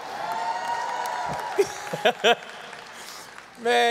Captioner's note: audience cheering